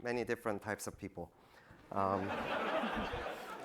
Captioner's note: laughter